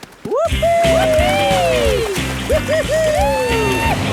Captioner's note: both whooping